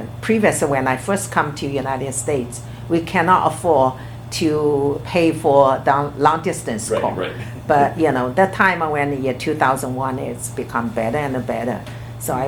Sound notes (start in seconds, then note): 6.8 laughs